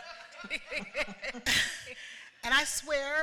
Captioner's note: laughter